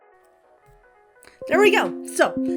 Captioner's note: notification dings; notifications dinging